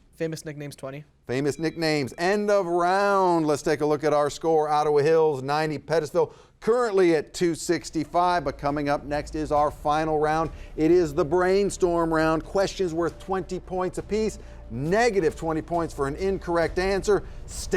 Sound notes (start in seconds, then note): 1.4 bell rings